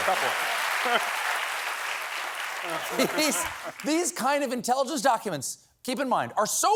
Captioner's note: applause